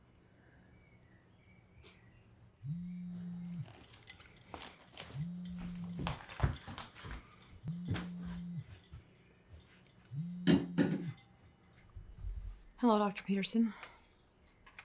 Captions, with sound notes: (phone buzzing) Hello Dr. Peterson?